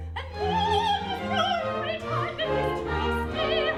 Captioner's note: none